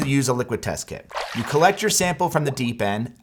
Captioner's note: water splashes